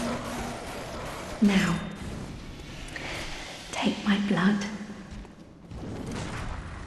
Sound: voice trembling

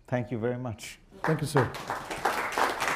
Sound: applause

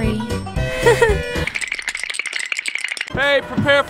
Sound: shivering

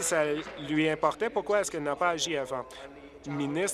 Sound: applause

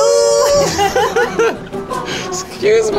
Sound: both laughing

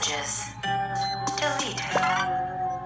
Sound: beep

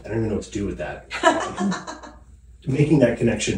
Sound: laughing

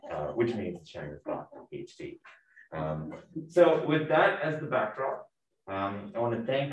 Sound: laughing

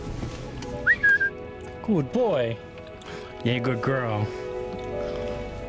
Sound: whistle

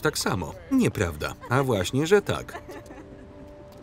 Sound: laughing

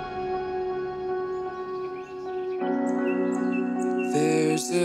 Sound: drums crash; instrumental softens; birds chip

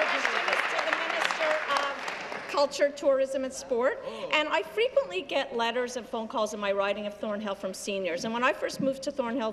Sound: applause

